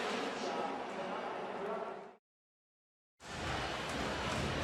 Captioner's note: pa announcement